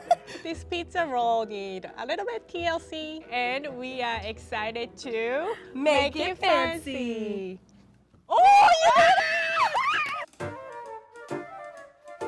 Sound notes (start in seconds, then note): 8.3 screaming